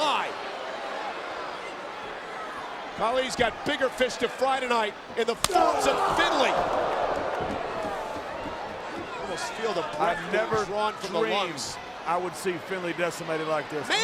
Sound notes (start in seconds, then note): 0.0 crowd boo; 5.4 crowd shout